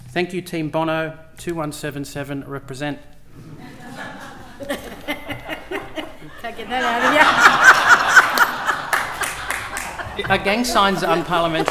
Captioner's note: laughter